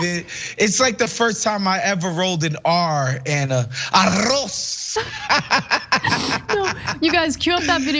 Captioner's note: laugh